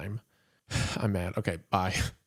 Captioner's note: sighs